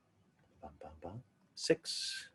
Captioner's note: mimics musical beats